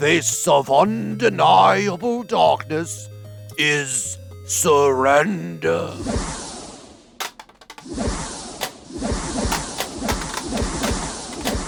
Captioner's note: assorted magical explosions